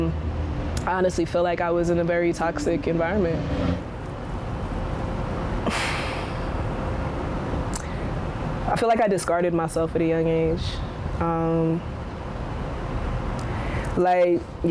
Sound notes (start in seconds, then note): 5.6 sighs